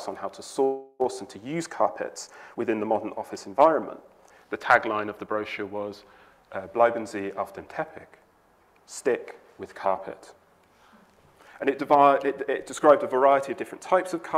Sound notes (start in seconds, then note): 6.5 speaking foreign language